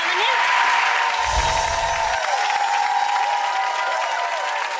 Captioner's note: audience claps